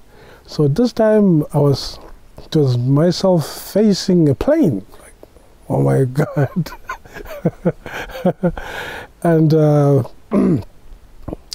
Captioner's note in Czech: smích